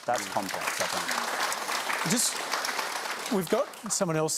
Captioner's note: applause